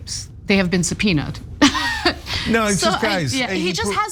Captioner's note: laugh